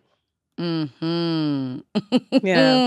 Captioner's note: laughter